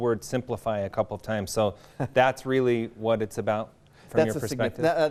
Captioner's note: laughing